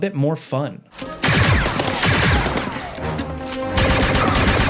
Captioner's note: weapons zinging